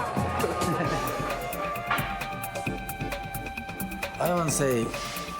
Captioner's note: Morimoto laughing